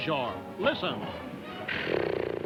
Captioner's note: snoring noises; voiceover